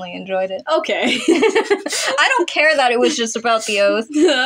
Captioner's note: giggle; laugh